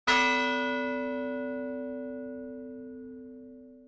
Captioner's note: bell ringing